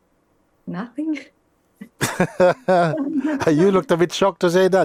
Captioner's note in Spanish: risas